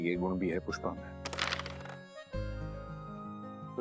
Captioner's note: carrom coins clacking